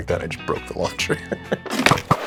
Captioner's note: laughs